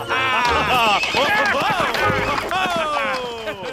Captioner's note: all laugh; horse whinnies